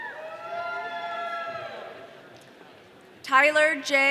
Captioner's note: audience cheering